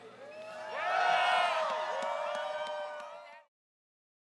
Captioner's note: crowd cheers